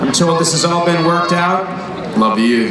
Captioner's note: crowd